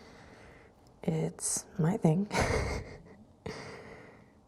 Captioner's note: laughs